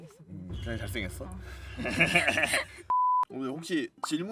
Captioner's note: both laughing